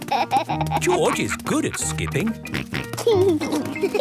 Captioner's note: snort